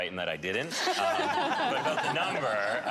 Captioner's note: laughter